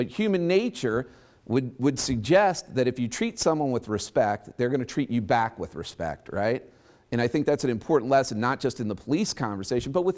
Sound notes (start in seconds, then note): none